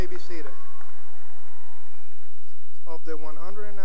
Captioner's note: cheering and applause